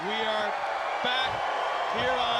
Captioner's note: crowd cheering